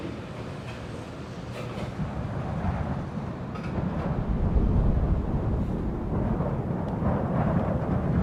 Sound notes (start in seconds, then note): 3.7 wind blowing